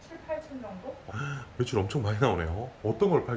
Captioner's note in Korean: 놀람